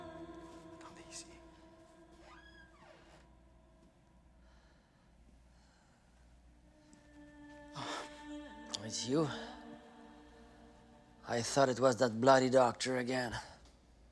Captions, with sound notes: - Please. (door creaks) - Oh, it's you. I thought it was that bloody doctor again.